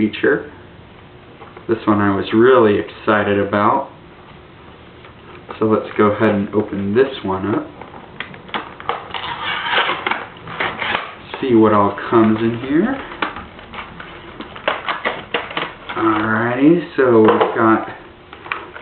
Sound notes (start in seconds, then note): 8.4 Box makes noises